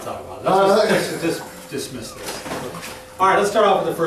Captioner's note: laughs